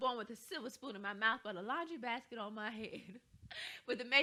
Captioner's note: chuckles